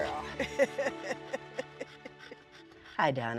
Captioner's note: laughs